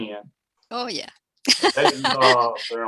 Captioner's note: laughing